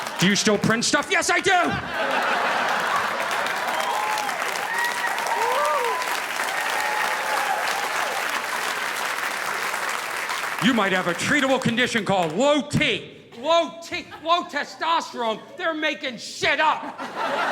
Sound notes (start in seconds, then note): 1.3 audience laughing; 1.8 audience applauding